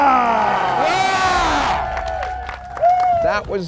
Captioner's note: cheering